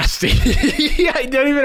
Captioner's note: laughing